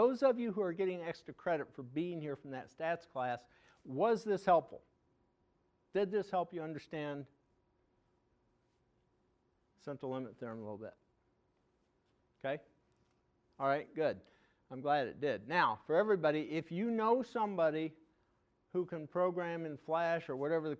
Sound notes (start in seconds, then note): none